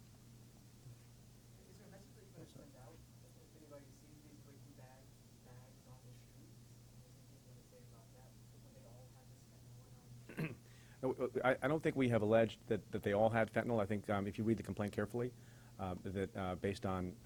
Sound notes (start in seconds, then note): 10.3 clears throat